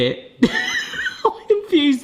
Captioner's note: laughing